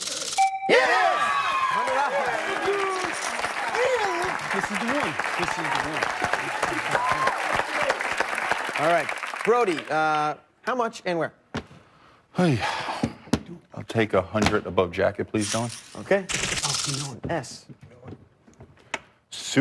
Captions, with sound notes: [chime] It is! [cheers and applause] This is the one. This is the one. All right, Brody, how much and where? Oy. I'll take 100 above JACKET, please. S.